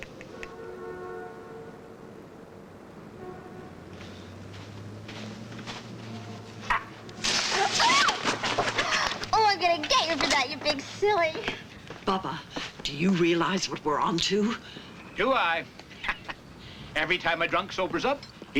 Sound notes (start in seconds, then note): 3.5 screams; 15.9 laughs